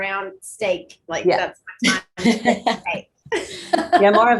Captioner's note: laughing; laughs; murmuring